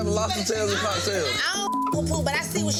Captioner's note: beep